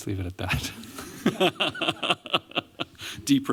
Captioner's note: laughter